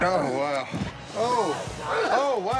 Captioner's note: retches